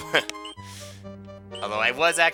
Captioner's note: inhaling